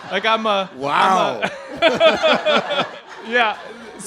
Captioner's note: laughing